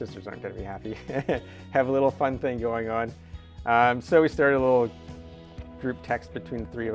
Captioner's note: laughs